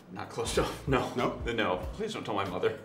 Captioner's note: laughing